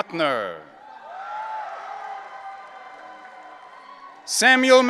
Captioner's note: audience cheering